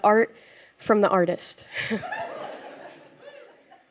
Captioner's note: laughter